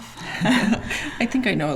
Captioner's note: both laughing